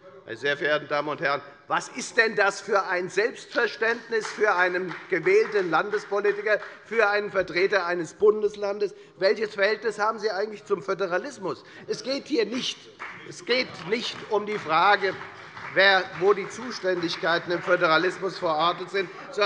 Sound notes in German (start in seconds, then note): 12.9 Beifall bei der FDP